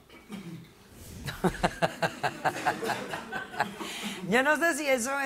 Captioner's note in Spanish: Risas